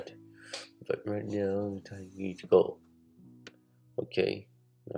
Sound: none

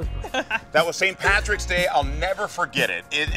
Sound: laughs

